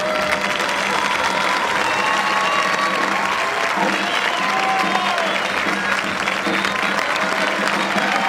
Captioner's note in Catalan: aplaudiments